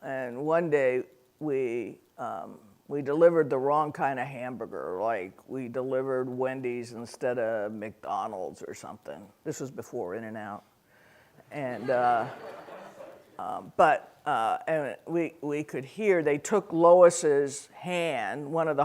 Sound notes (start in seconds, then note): 11.7 audience laughing